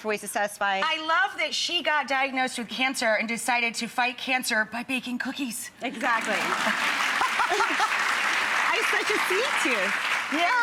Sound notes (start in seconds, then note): 5.9 audience applauds